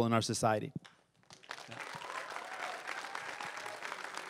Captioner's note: crowd cheering and applauding